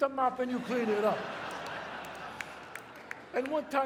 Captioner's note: audience laughs